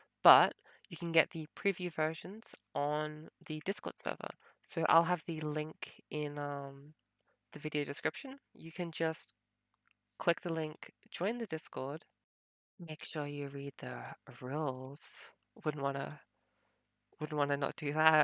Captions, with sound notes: but you can get the preview versions on the Discord server. So I'll have the link in the video description. You can just ... click the link, join the Discord. (fake intimidating) Make sure you read the rules. Wouldn't want to ... wouldn't want to not do that...